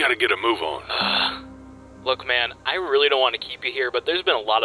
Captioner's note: sigh